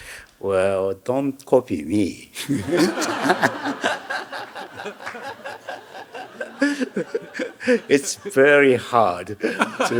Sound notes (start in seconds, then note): 2.4 Hiroshi laughing; 2.4 audience laughing; 4.8 laughing